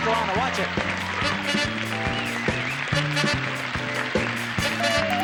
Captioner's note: applause